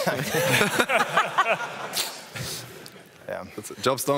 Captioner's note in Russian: смех